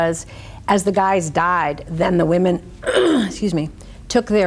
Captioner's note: clears throat